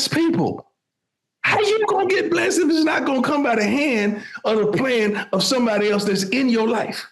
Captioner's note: speaking in foreign language